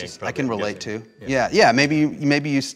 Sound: murmuring

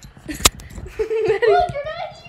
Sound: laughs

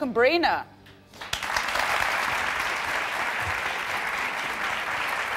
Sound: audience applauding

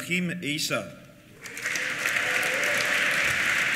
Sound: applause; cheers

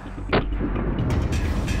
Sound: whooshing; muffled gunshot; whooshing

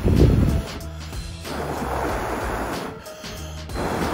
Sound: blowing

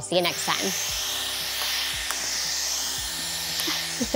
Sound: machine whirring; laughing

